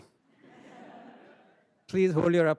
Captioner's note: audience laughing